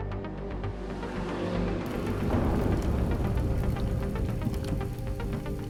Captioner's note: car engine roaring